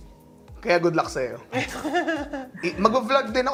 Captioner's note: chuckles